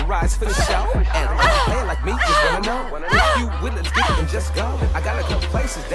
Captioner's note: girl pants rhythmically